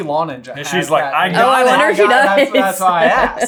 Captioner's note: laughing